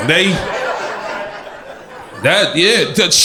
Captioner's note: crowd laughter